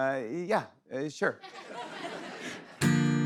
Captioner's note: laughter; guitar strums